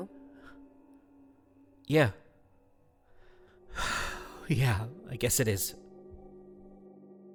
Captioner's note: sighs